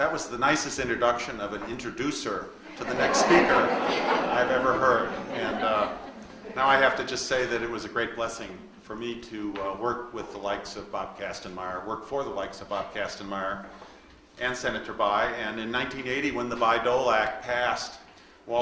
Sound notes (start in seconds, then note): 2.6 audience laughs